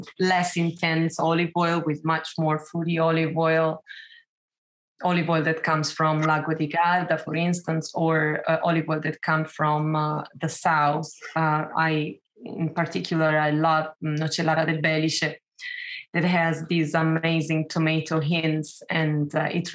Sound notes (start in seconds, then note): 6.3 speaking Italian; 14.0 speaking Italian